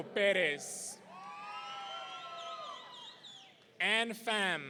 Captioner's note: audience cheering